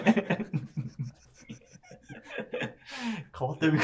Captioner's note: laughing